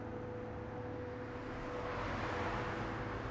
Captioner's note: cars whirring